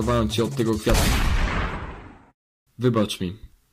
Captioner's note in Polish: jeb w jeb